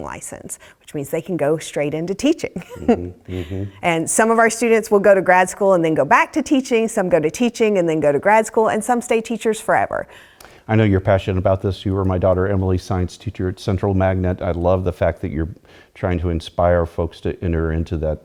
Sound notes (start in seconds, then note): 2.6 laugh